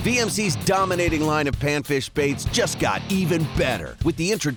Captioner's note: voiceover